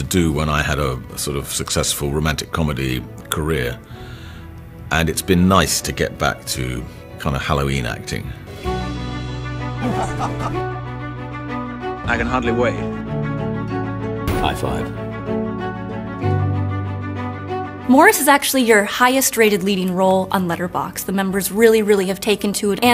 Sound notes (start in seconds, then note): 8.8 somber orchestral music; 9.8 laughs; 15.9 somber orchestral music